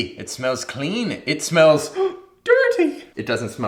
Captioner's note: gasps